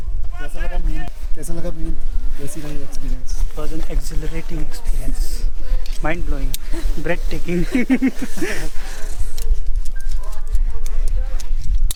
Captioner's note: laughs